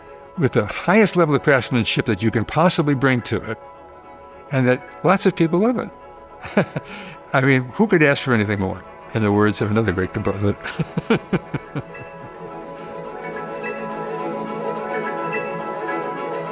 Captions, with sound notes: with the highest level of craftsmanship that you can possibly bring to it, and that lots of people love it. I mean, who could ask for anything more? In the words of another great composer [laughs].